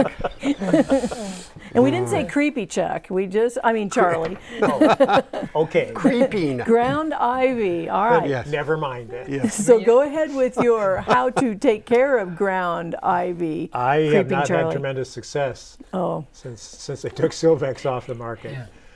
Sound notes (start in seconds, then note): 5.8 laughing; 8.9 laughing